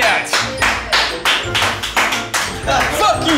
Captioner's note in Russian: Аплодисменты